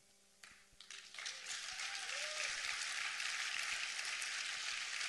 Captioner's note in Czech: potlesk